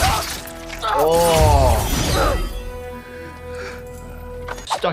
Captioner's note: character yelling